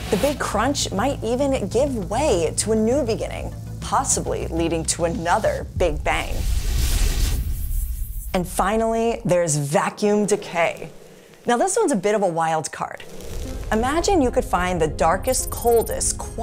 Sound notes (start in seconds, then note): 6.2 star exploding; 13.0 screen hissing; 13.0 air whooshing